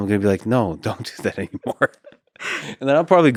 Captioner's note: laughs